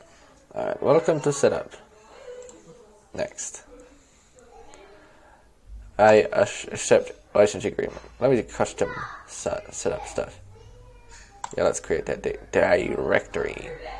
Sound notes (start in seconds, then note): 2.4 click; 4.8 click